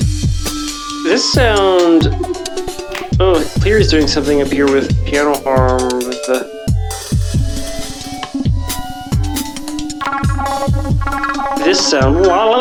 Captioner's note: blip